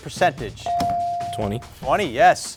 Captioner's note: buzzer chimes